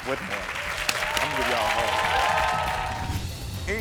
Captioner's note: audience cheering